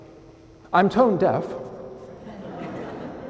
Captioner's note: laughter